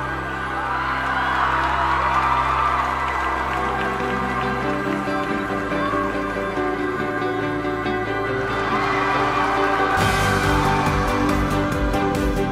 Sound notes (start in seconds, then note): 0.1 crowd cheers; 6.1 music: upbeat; 8.5 crowd cheers